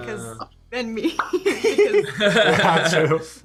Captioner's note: all laughing